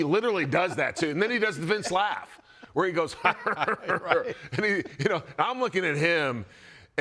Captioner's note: laugh